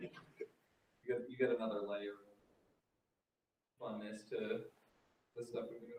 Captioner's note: laughing